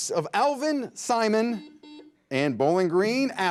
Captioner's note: buzzer buzzes